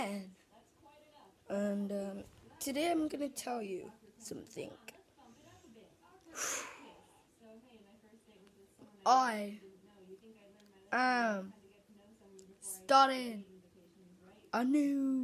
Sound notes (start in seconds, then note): 6.3 whew; 7.7 dramatic pause